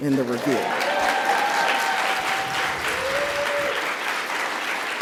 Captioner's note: audience applauds